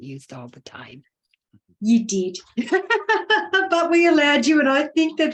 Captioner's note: laughing